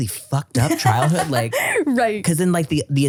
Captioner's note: laughing